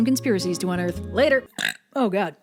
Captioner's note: Belch